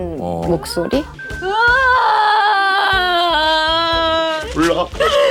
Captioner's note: crying her heart out